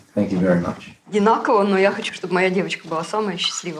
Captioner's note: speaks ukrainian